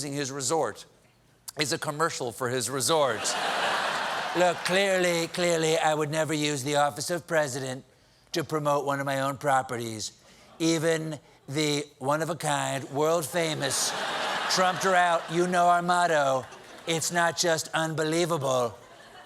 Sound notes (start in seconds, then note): 3.2 laughter